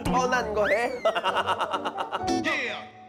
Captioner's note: hahahahahahaha